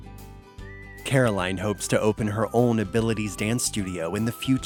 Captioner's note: voiceover